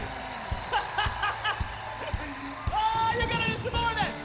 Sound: laughs

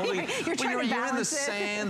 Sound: laughter

